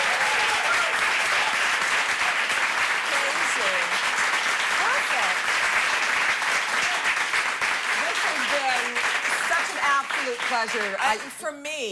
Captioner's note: cheers and applause